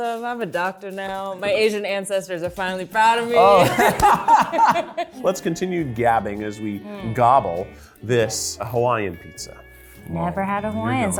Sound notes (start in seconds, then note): 3.3 laugh